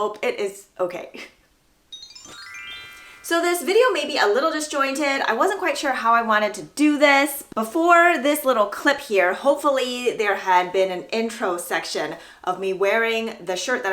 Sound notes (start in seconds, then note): 1.9 magic chime sound